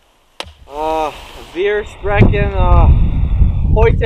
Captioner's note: as Barry